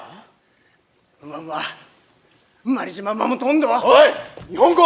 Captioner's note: in Okinawan dialect